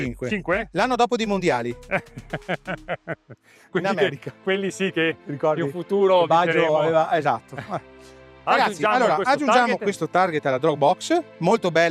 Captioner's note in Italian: risate